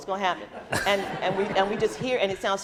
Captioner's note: laughing